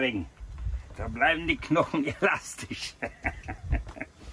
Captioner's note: laughing